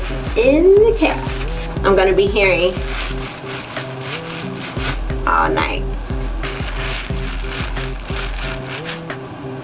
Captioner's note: crunch sound